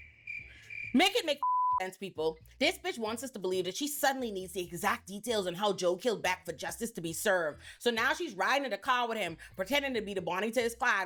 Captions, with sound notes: Make it make (beep) sense people. This bitch wants us to believe that she suddenly needs the exact details and how Joe killed back for justice to be served. So now she's riding in a car with him, pretending to be the Bonnie to his clog